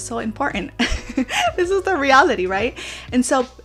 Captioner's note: giggles